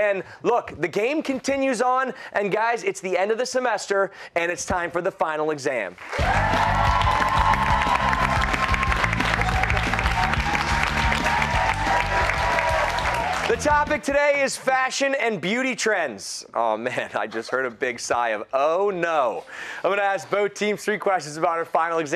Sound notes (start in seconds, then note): 6.0 cheers and applause